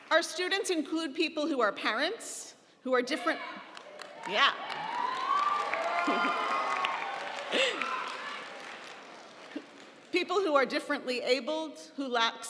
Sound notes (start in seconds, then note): 6.7 audience cheering; 7.3 laughs